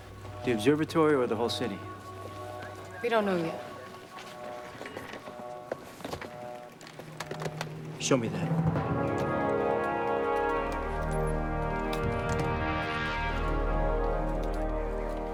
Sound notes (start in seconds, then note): 4.7 footstep; 9.6 bell